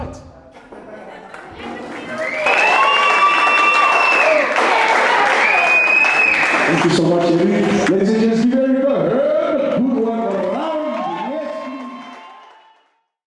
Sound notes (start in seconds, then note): 2.4 applause